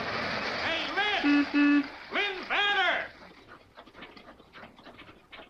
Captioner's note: horn honks